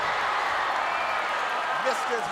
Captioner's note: crowd cheering